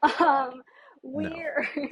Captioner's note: laughs